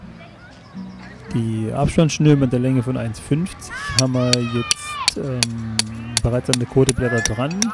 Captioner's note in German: Hammergeräusche